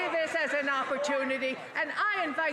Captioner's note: applause